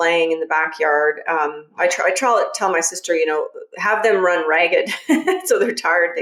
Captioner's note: laughs